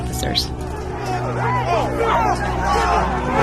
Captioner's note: shouting